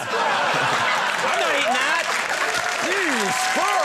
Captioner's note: audience laughing